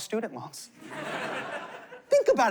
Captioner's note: laughter